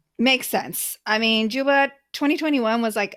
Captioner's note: none